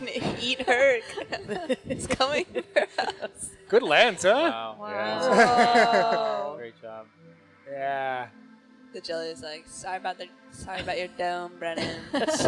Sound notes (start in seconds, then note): 0.0 scientists laughing; 5.1 laughing; 11.8 laughing